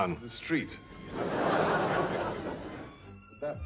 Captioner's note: audience laughs